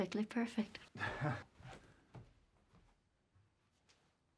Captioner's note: laughs